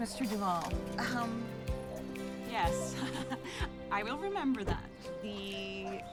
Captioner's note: laughs